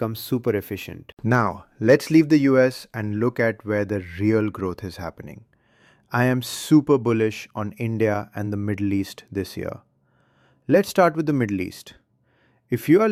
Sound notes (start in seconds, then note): 1.1 excited